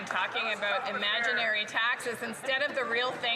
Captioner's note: some Applause